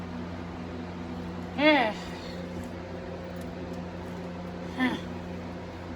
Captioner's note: chuckles